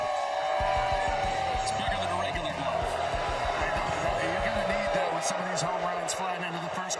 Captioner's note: cheering